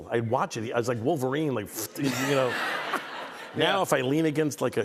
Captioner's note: laughter